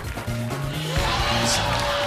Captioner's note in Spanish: ovación